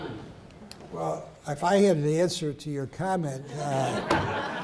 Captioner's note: laughter